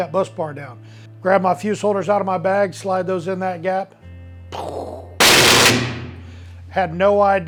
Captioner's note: electrical arcing noises